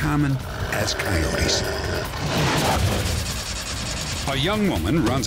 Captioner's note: snarling